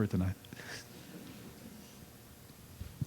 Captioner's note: laughter